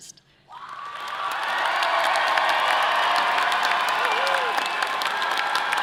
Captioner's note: audience applauding and cheering